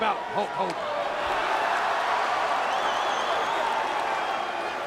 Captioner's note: crowd cheering